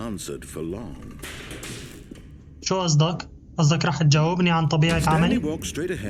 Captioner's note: banging